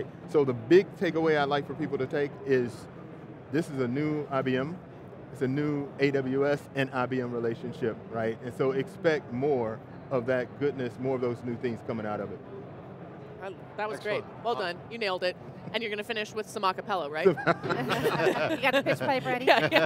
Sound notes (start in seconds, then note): 17.2 laughs; 19.3 everyone laughs